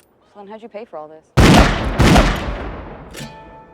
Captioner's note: gunshots